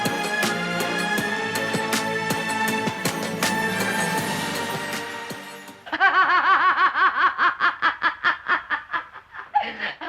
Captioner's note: laugh